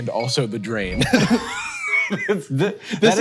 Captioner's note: both chuckle